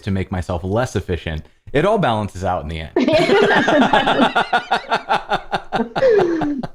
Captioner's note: laughter